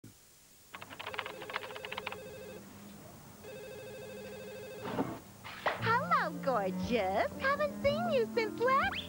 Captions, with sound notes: (Typing Keys and Phone Ringing) Talking Tampon:Hello Gorgeous, I haven't seen you since last month!